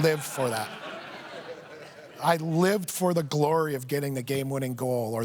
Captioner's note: laughter